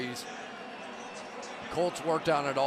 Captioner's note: pa announcement